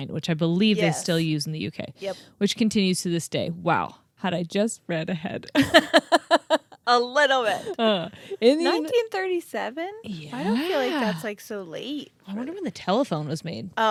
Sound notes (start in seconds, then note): 5.6 laughs